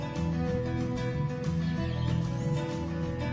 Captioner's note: birds Chirping